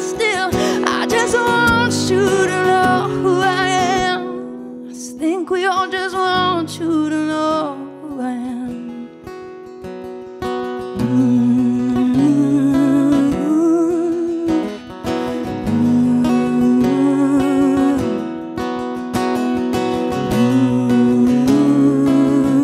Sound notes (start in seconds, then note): 11.4 guitar strumming; 11.4 rhythmic humming